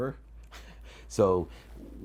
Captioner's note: chuckles